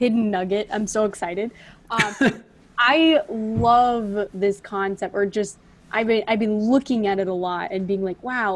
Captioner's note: laughs